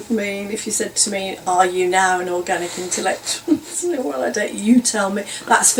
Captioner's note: laughs